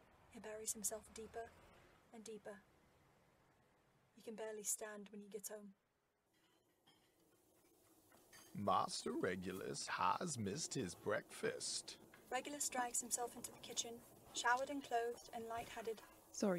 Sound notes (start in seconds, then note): 8.2 plates clattering